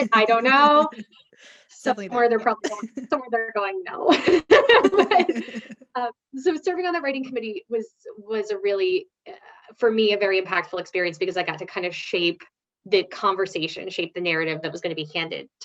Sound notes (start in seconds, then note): 0.0 laughs; 4.1 both laughing